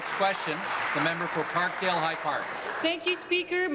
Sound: applause

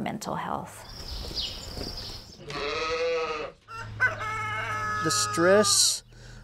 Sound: farm ambience

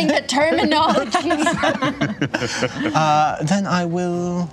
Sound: laughter

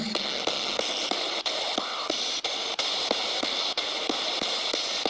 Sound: ghost box hissing

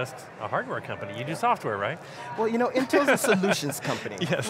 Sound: laughs

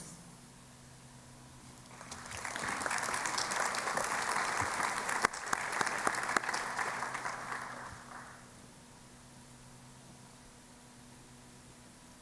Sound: applause

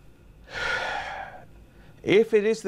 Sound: sighs

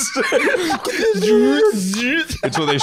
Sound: both laughing; both making zooming/focusing noises

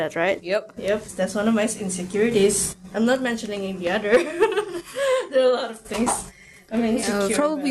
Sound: chuckles

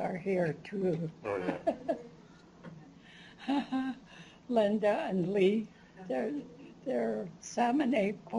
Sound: chuckles

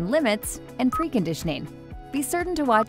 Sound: electronic display beeps

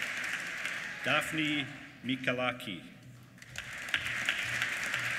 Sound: applause

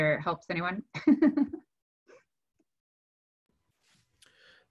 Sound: laughs

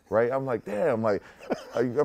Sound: laughter

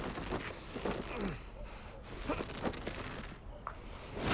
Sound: grunting

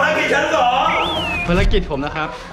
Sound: screams

